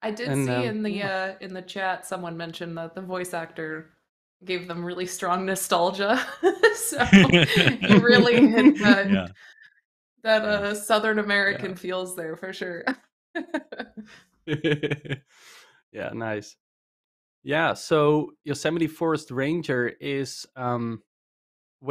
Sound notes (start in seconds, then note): 6.9 laughs; 14.5 laughter